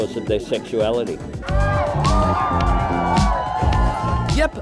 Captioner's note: cheering